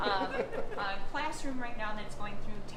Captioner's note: laughing